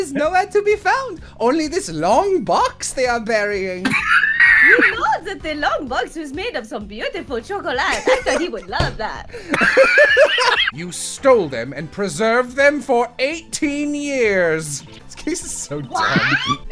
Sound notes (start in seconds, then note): 3.8 wheezing; 9.4 laughter